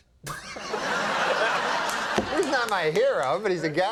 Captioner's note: Conan laughing